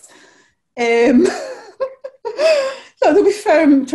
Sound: chuckles

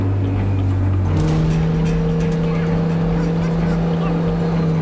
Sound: truck engine roaring

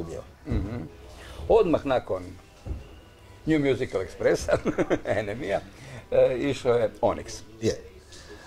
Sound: laughs

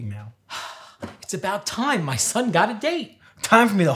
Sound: sighs

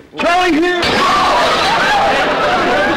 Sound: smash; screaming

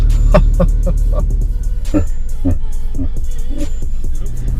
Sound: evil laughter

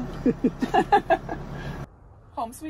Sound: laughing

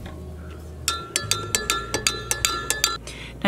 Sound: spoon clanking against glass

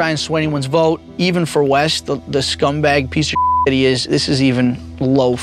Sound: beep

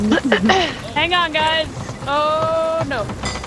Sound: cough

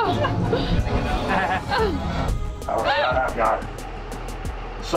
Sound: nervous laughter

